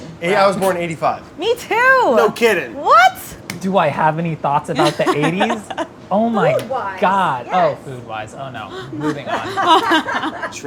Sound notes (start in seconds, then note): 4.8 laughs; 8.7 laughter